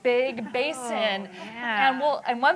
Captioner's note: laughter